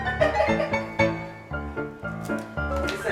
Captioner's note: laughs